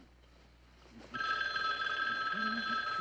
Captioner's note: phone ringing